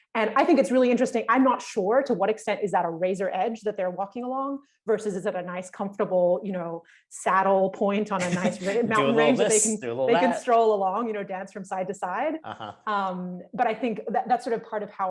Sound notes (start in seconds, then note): 8.2 laughs